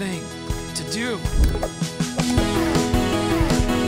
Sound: click

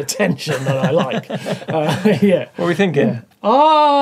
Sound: laughs

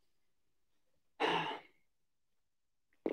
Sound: sighs

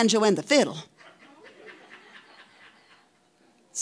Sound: audience laughing

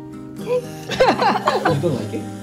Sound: laugh

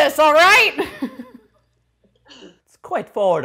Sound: laughing

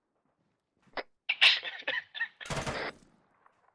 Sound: bubbly giggle interrupted by gunfire

